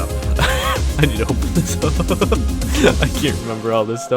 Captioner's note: laughs